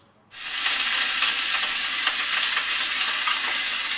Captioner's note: oil sizzling